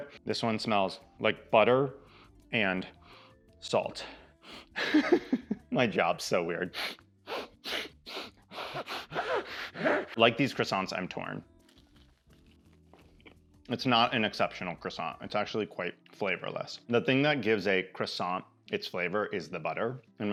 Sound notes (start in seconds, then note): 4.8 laughs; 7.2 sniffs